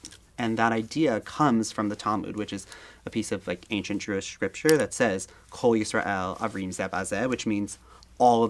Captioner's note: speaking Hebrew